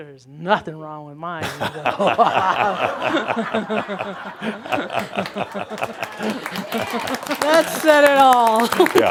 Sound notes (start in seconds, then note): 1.4 laughter and some applause; 7.2 chuckles